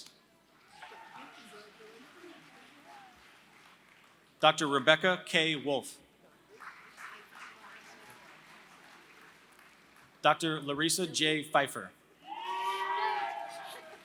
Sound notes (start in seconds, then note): 0.0 applause; 6.5 applause; 12.5 applause